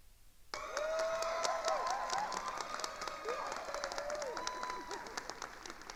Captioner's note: attendees cheering and applauding